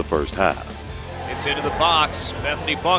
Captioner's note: voiceover